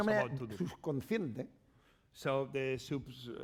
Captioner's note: speaking spanish